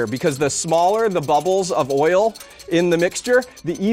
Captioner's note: none